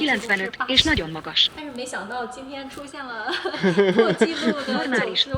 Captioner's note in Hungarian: nevetés